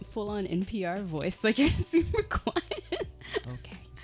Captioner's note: laughing